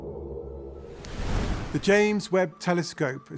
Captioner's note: wind whooshing